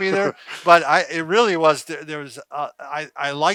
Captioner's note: laughs